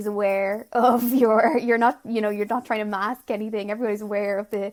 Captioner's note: laughs